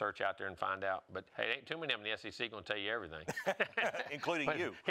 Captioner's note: laughing